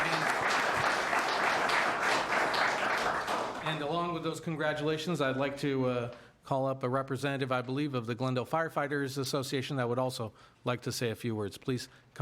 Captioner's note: applause